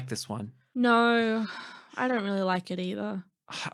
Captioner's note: sighing